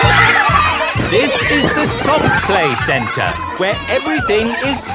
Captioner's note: loudly over shouting